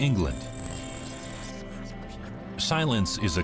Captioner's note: static hissing